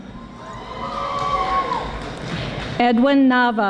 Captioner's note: audience applauding